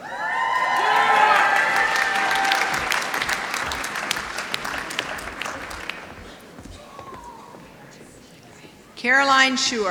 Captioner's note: applause